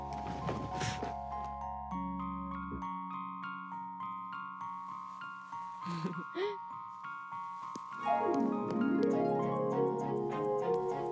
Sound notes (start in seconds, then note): 0.8 light thud; 5.9 laughing; 8.1 harp strumming